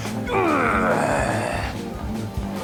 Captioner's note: groaning